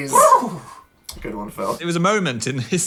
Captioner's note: Phil whinnies